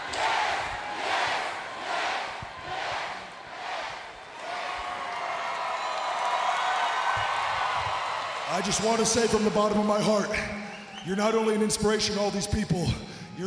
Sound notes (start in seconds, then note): 5.2 crowd cheering